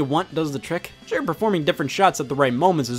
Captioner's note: none